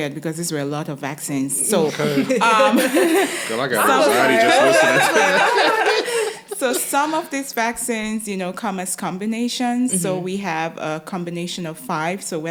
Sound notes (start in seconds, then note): 5.1 all laugh